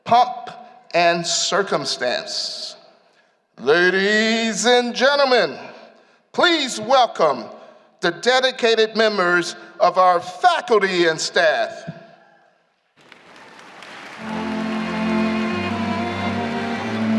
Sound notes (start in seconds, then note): 12.9 applause